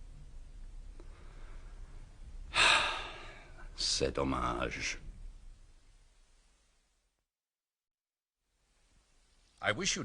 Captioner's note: sighs